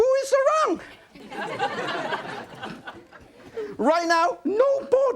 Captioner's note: audience laughing